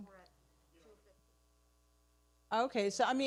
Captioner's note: person speaking away from mic